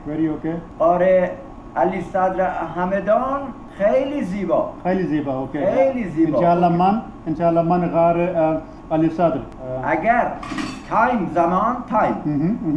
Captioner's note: speaking Persian